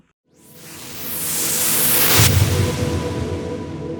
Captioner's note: whooshing